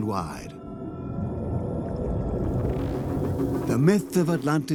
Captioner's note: bubbling sound